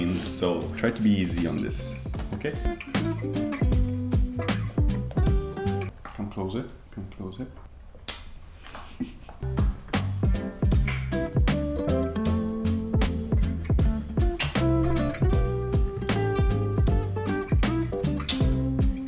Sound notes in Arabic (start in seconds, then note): 3.5 ترانيم عيد الميلاد; 8.3 أصوات التقبيل; 9.8 ترانيم عيد الميلاد